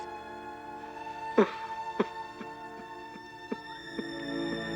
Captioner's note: sobs